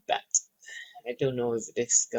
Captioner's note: sighs